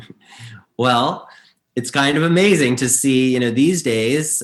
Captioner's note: chuckles